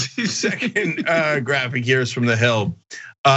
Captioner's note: laugh